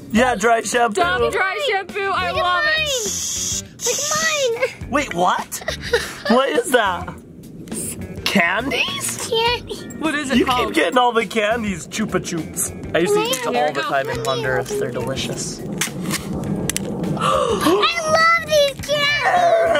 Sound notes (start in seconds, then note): 2.7 spraying noise